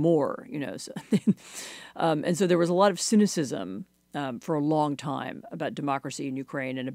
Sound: laughter

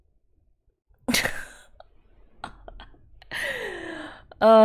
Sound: laughs

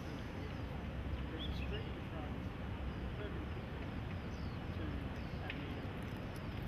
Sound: murmuring of background conversations; birds chirping

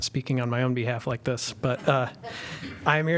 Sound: laughter

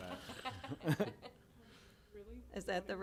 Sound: chuckling

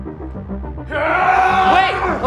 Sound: screams

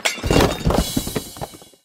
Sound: crashing sounds

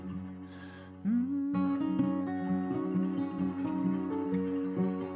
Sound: humming melody

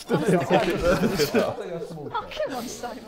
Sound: Sidemen laughing

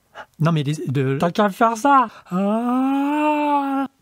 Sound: yawns loudly

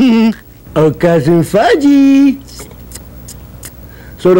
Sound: teeth sucking sound

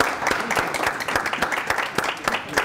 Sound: applause

